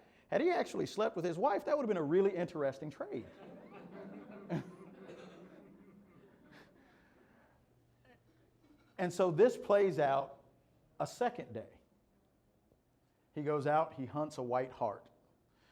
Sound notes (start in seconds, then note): 6.1 laughter